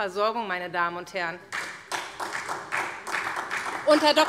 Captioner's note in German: Beifall SPD